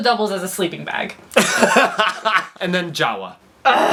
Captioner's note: laughs